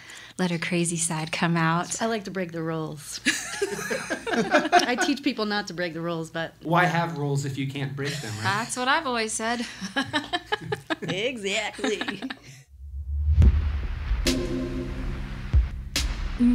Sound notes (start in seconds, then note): 3.2 groups laughs; 8.0 laughs; 12.9 synth drum music